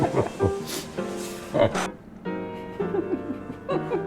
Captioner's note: laughing